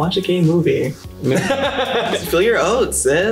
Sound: laughs loudly

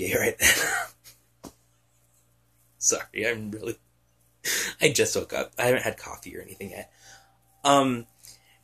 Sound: giggling

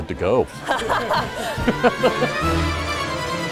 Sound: laughing

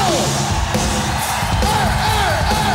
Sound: audience cheers

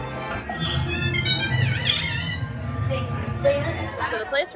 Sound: droid noises

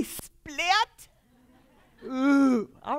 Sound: laughter

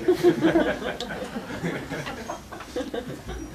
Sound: laughter

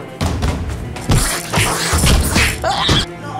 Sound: royalty free punch sound effects

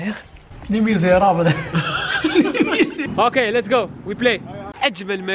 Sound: laughs

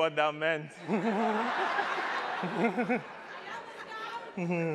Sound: laughs

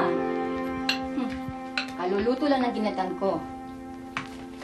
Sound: chuckles

